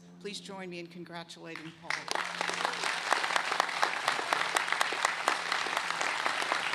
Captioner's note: applause